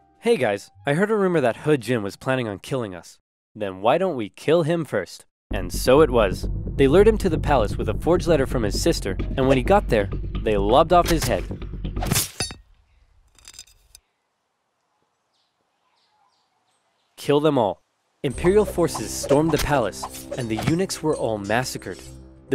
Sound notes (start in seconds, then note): 12.0 slice sounds; 14.0 silence